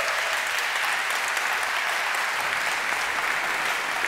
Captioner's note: applause